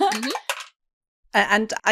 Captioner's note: excellent first dice clacks of the session!